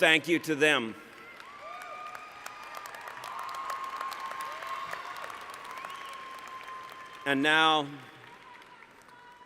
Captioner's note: applause